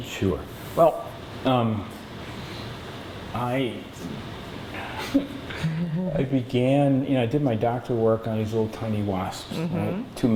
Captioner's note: laughter